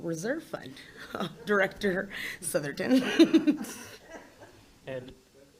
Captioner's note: laughs